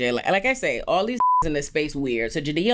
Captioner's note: beep